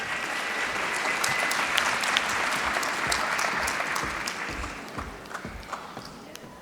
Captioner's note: applause